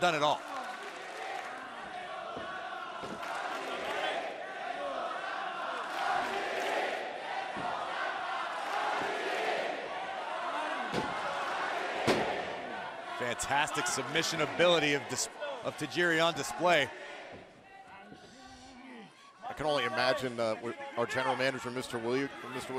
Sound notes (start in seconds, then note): 8.4 fans chanting